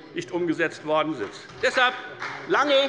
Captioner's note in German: Beifall bei der FDP